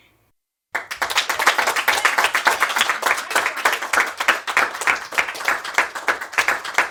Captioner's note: students applauding